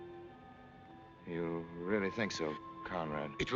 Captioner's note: none